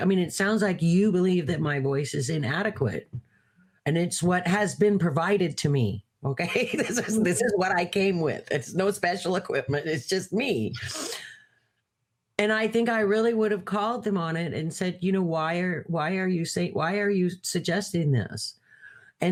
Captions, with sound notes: I mean, it sounds like you believe that my voice is inadequate, and it's what has been provided to me." Okay, (laughs) this is what I came with, it's no special equipment, it's just me. And I think I really would've called them on it, and said, "you know, why are you suggesting this?"